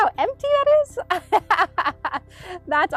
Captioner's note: laughs